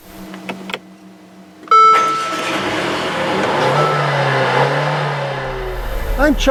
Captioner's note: car ignition sound fx